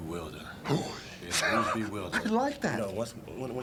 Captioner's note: chuckling